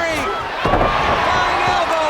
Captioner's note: blows thudding; body thudding